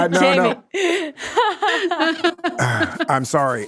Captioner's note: everyone laughing